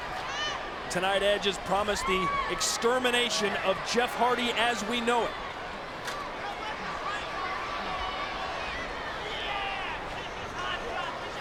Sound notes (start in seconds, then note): 6.2 audience chattering